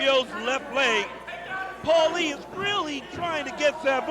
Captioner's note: crowed chatter